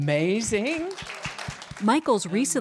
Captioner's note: applause